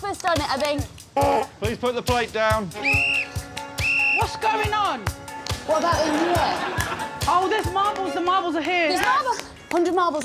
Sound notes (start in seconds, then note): 2.3 sounds horn; 3.7 blows whistle twice